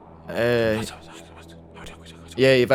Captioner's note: whisper